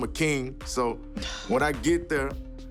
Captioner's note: sigh